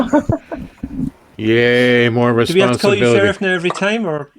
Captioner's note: sarcastic